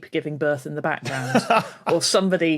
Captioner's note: laughs